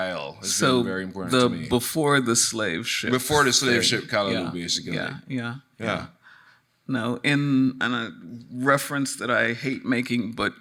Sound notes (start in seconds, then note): none